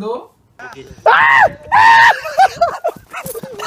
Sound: old lady screams

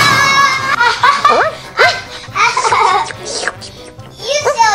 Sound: The Assistant laughs

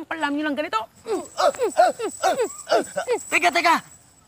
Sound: both grunting

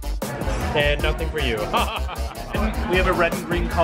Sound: upbeat rhythmic hip hop music; laughter

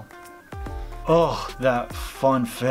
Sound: sigh

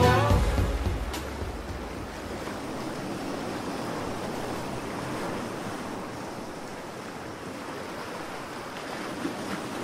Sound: ocean

